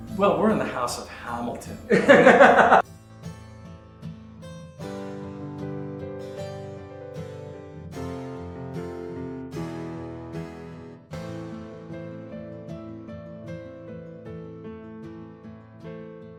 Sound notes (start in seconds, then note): 1.0 laughs; 3.7 pleasant music